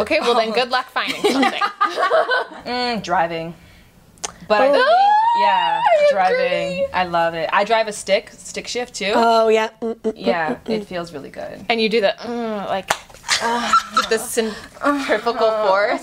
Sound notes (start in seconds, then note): 1.0 laughter; 12.8 moans